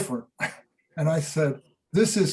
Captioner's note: chuckles